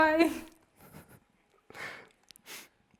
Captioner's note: chuckling